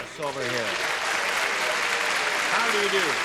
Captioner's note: applause